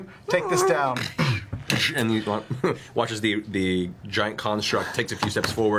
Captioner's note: stomping and creaking sounds